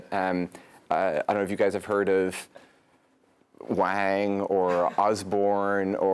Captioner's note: laugh